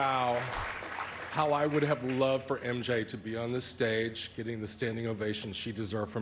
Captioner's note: applause